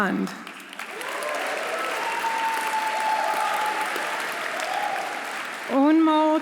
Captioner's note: audience applauding; audience cheering